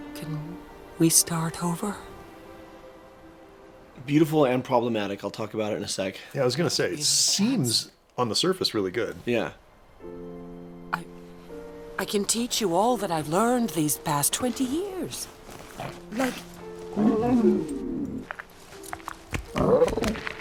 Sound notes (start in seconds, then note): 15.6 growls softly